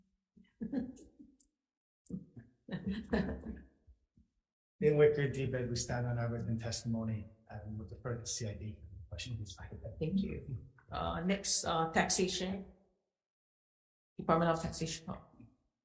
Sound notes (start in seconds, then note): 0.6 chuckles